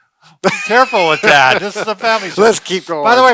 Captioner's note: laughs